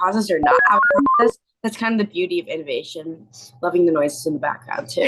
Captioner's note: beeping sound